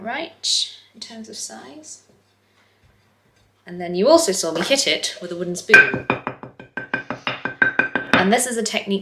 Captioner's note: tapping